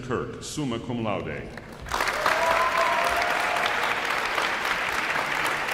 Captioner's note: audience applauds